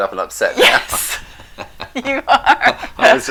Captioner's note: laughing